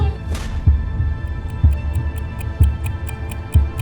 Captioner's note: ticking